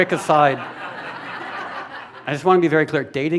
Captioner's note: laughter